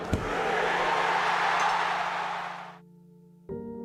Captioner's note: audience cheering; light music